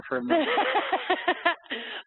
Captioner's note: laughing